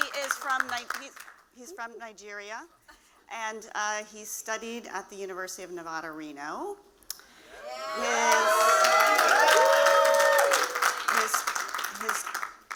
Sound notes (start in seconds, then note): 7.9 applause